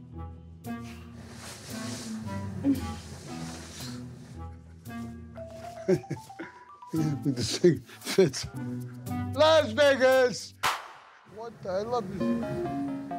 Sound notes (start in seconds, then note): 2.9 giggling; 5.6 giggles